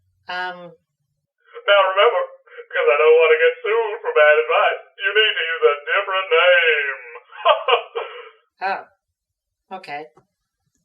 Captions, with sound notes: Umm... Now remember! Because, I don't want to get sued for bad advice you need to use a different name! [Laughs] Oh... Okay...